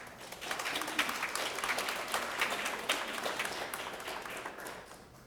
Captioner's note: applause